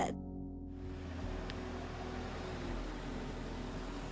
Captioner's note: car engine roaring